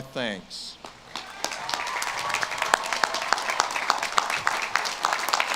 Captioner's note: audience claps and cheers